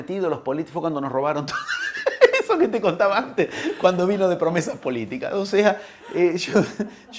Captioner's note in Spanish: risas